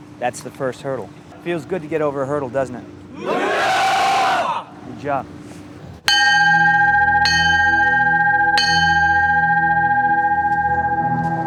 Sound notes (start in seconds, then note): 6.1 bell rings 3 times